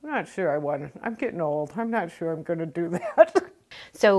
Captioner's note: laughs